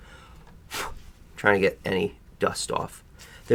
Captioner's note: blows